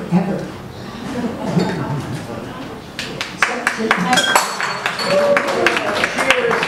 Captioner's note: audience laughs and applauds